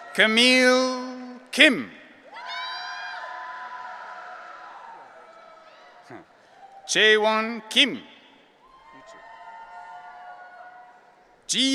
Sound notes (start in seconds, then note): 2.3 audience cheering; 8.6 audience cheering